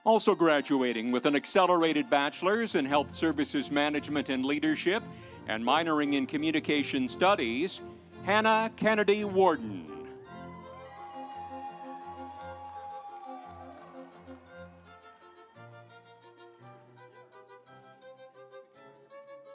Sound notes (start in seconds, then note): 10.3 audience cheering; 10.8 instrumental music